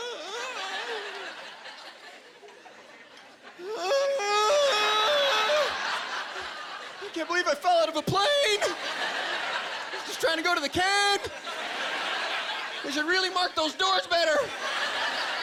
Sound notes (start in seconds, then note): 0.1 stops screaming; 3.8 screaming